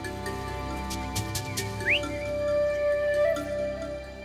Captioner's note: whistling